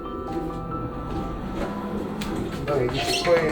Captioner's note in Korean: 원장 선생님 들어오시는 소리